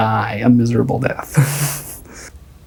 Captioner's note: laughs